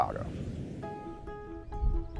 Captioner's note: whooshing; soft music